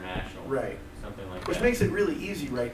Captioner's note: voiceover